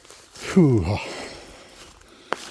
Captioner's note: sigh